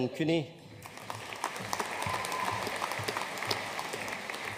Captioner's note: audience applauding